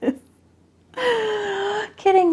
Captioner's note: laughing